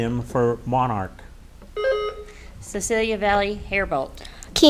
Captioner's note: buzzer beeps